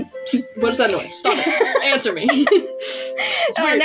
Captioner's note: cheeky Chuckles; laugh; chuckle